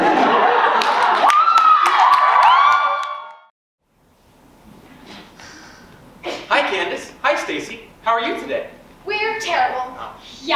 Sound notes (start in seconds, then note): 0.0 audience laughs; 1.7 audience cheers